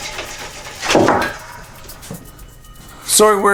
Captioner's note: hammer thuds